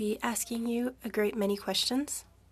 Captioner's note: speaking French